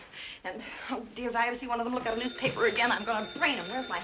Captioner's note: ringing